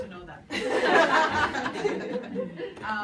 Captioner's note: people laugh